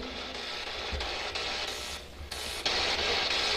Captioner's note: static buzzing